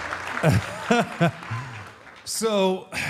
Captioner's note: audience applauding; Mark laughs